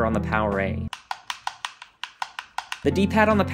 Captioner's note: loud clicking sounds from the joysticks